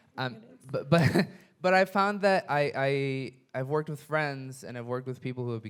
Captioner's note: chuckles